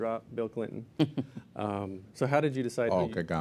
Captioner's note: laugh